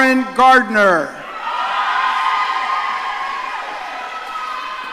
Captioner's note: audience cheering